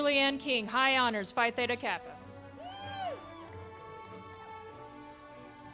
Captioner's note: crowd cheers